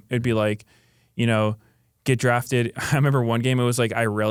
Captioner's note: laughs